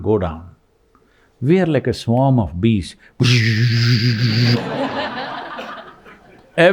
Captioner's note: laughter